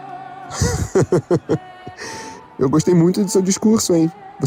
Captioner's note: Caesar laughs